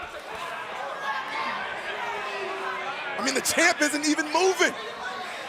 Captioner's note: crowd chatter